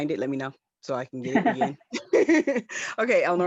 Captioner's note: laughs